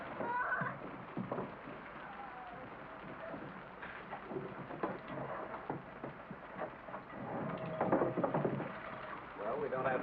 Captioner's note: rain patters